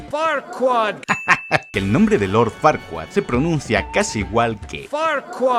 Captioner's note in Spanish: risas